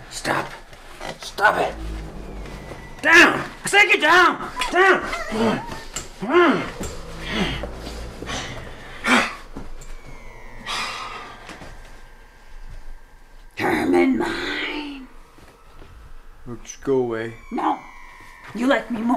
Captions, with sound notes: Stop. Stop it. Down! I said get down! (CHANGELING WHIMPERS) (MURK HISSES) Herman mine. Just go away. No, you like me more.